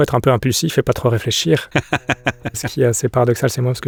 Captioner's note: laughs